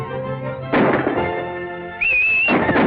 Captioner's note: whistling; instrumental music playing